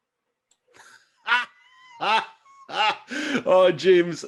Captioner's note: laughing